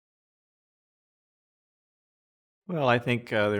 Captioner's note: silence